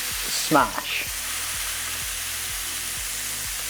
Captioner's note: sizzling sound